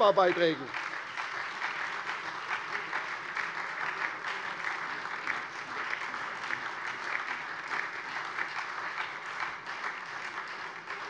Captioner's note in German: Beifall SPD und vereinzelt DIE LINKE